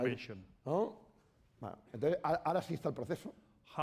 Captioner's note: speaking spanish